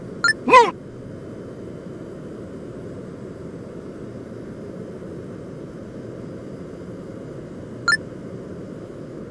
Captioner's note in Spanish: Suspira